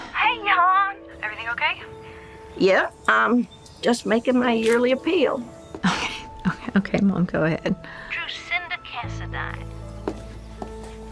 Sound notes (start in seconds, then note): 0.0 sighs; 5.8 chuckles